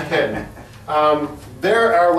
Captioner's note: laughs